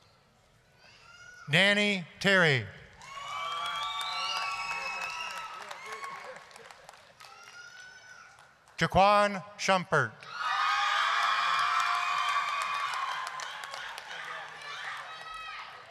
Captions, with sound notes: DANNY TERRY... (applause, cheering) JACQUAAN SHUMPERT... (applause, screaming)